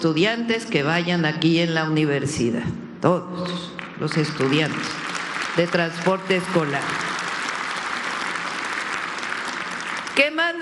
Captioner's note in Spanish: aplausos